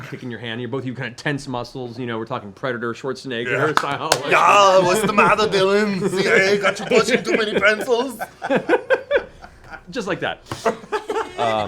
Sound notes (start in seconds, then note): 4.2 Schwarzenegger accent; 9.4 laughs